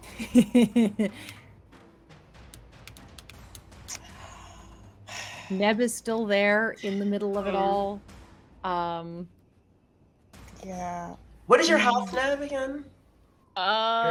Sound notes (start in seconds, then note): 0.0 laughs; 4.1 Maeve sighs